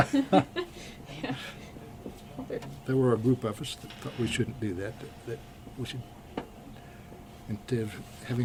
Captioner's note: BOTH laugh